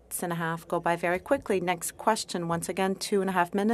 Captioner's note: speaking French